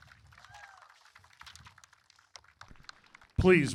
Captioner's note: applause